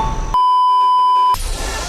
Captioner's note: BEEEEEEP.aiff